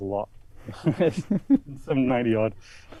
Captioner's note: chuckling